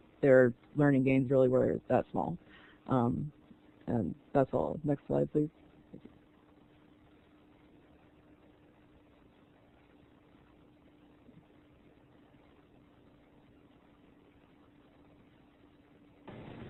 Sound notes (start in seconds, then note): 5.5 silence